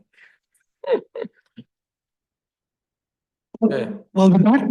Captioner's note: person laughs